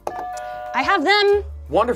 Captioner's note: buzzer rings